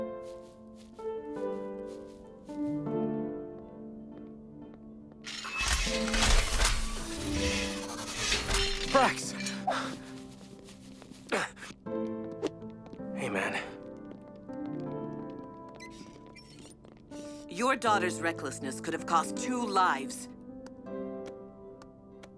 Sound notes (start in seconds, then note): 0.0 soft music; 1.8 footsteps; 5.3 door hisses open; 14.6 soft music